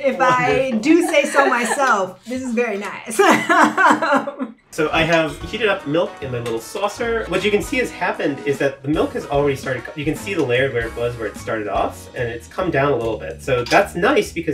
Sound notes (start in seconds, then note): 3.9 laughs; 4.6 air whooshing